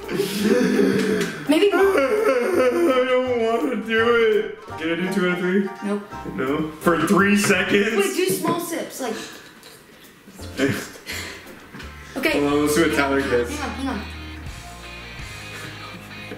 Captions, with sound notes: (pretend sob) I don't wanna do it. Can I do two out of three? - Nope. - For three seconds? - Do small sips, like... - I'll see what Tyler gets. - Hang on, hang on, hang on.